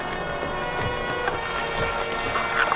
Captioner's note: footsteps